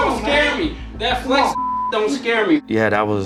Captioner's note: beep